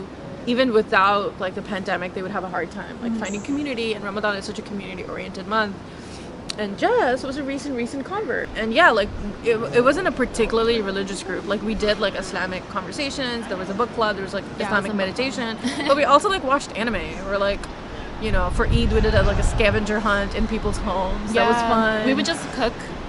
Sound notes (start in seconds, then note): 15.6 laughs